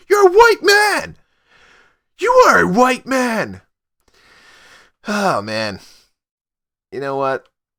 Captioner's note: sigh